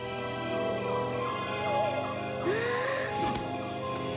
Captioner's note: breathes deeply